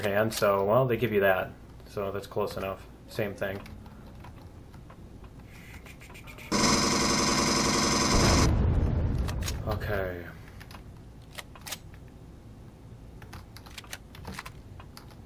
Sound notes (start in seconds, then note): 5.1 explosion; 5.1 pulse rifle; 5.1 turret turning; 11.2 reloading